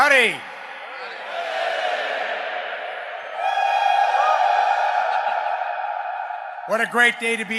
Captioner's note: crowd